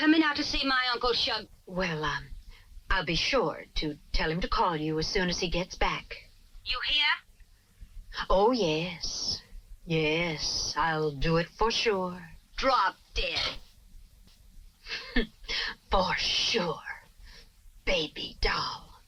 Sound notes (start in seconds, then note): 14.8 chuckles